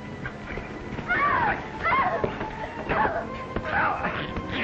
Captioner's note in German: Frau schreit